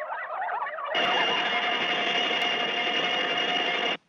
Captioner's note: laser blasting